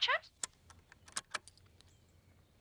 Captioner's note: click